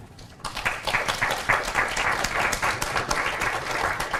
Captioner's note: applause